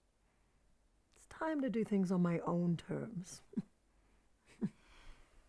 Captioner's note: Tina snickers; chuckles